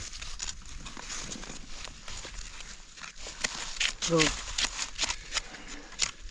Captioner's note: leaves crunching; brush rustling